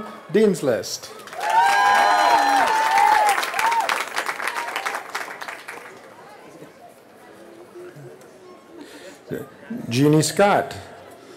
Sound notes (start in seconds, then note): 3.4 cheering